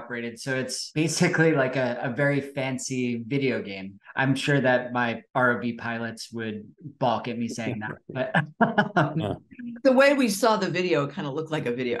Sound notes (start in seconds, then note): 7.6 laughs